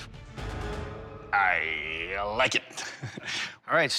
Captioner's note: soft laugh